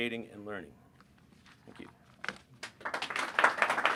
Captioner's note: applause